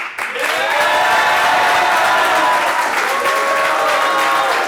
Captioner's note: audience applauds